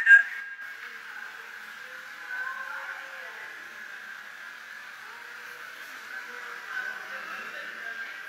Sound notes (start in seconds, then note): 0.0 indistinct crowd sounds